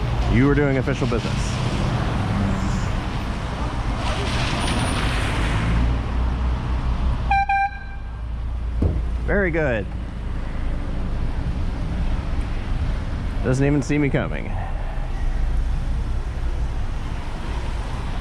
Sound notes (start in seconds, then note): 7.3 airhorn; 8.7 tap